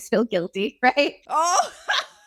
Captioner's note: laughter